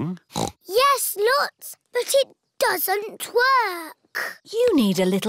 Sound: snorts

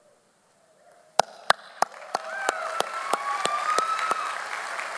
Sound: audience applauds

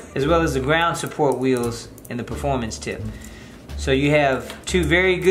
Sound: none

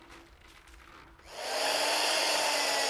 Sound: drilling noise

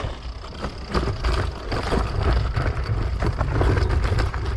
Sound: bike clattering

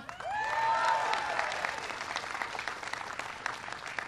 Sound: applause

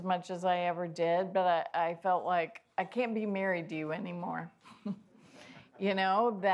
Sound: laughs

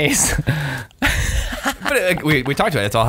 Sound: laughter

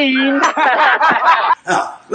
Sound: Cowboys laugh

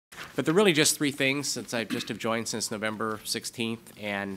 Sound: executive Director speaking

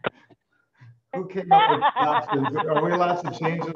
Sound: laughs

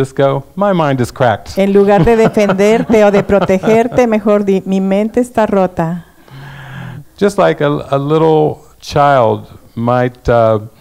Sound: laughs

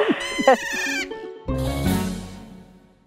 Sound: A dolphin says “Ee-ee-ee!” and cuts the song off

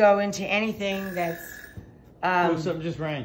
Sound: timer buzzing

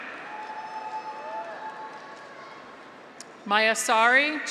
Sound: graduates cheer; audience applauds

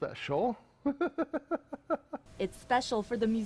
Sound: laughter

